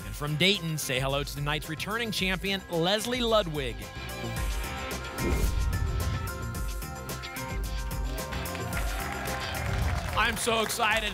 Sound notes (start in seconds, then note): 5.0 whoosh; 8.0 applause and cheering